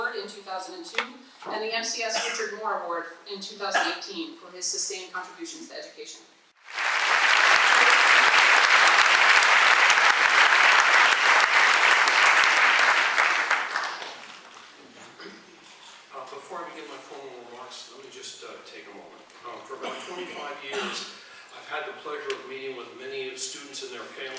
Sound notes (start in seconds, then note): 6.6 applause